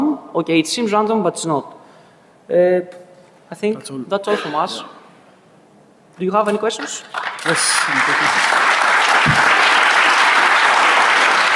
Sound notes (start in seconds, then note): 7.1 applause